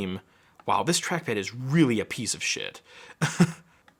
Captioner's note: chuckling